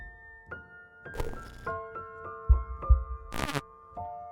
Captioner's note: whimsical music; static